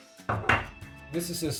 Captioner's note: clanging